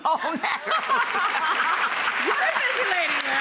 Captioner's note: audience laughing; clapping